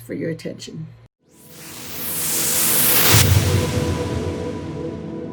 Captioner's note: whooshing